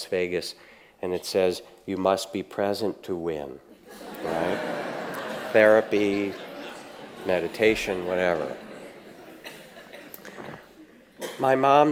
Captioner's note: audience laughs